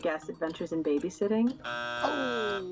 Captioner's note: buzzer drones; chuckles